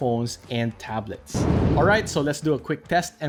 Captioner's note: air whooshing